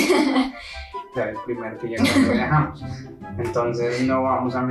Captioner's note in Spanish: risa nerviosa?